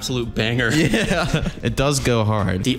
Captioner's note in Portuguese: risos